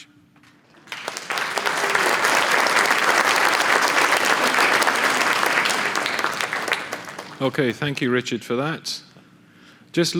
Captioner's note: applause